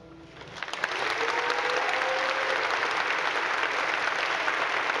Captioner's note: audience applauding